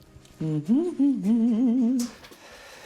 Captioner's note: hums curiously